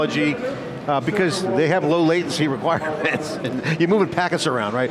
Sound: chuckles

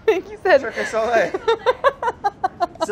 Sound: laughing

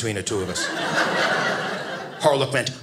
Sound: audience laughing

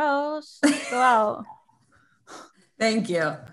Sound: giggles

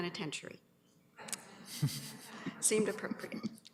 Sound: laughter

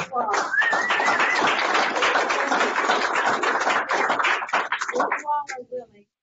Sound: applause

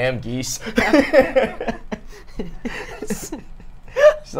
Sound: all laugh

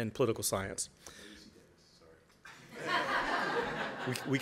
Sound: laughter

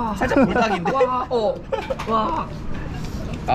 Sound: laughing

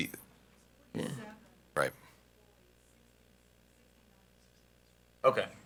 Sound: board member speaks faintly

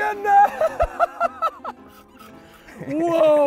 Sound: continues to laugh loudly

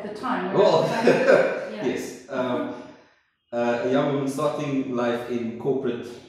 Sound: laughs

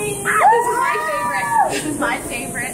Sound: everyone cheers

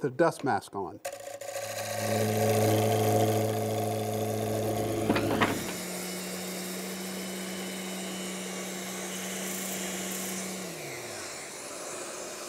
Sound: tools buzzing

